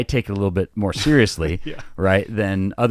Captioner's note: laughing